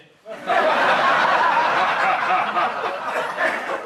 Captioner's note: audience laughs